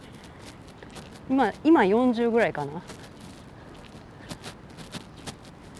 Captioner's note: the T-shirt is rubbing and there is noise